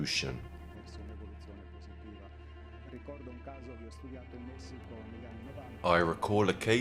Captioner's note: dramatic music continues; speaking in foreign language